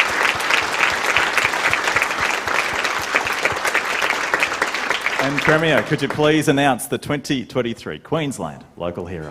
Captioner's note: applause